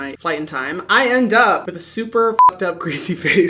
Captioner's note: beep